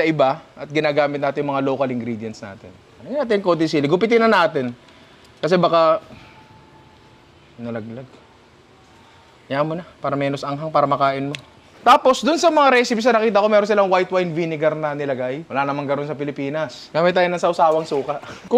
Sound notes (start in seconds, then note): none